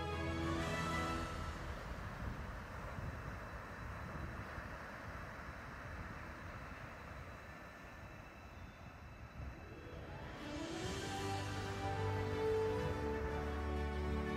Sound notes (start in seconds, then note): 1.6 water splashes; 9.9 upbeat music plays